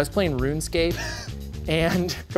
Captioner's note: laughs